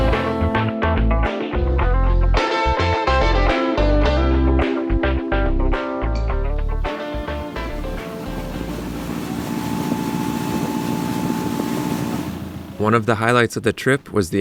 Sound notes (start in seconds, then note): 0.0 upbeat music; 7.0 engine whirs